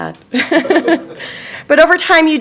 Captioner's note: laughing